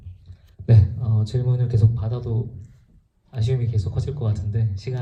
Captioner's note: speaks in foreign language